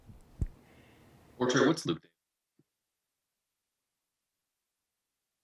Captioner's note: sound cut out